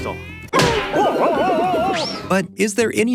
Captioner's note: impact